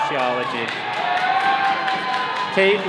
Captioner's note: all cheering